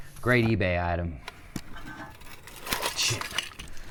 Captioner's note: box clattering